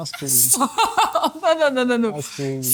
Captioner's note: laughs